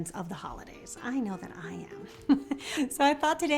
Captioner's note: laughs